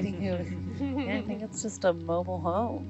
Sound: woman laughing

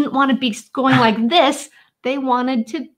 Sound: chuckling

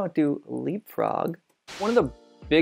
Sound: static noise

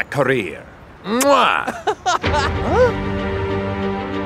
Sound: laughing

